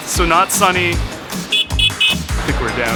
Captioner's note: horn beeping